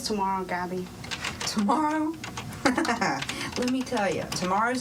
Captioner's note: chuckling